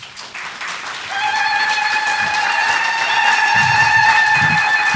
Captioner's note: applause and whooping sounds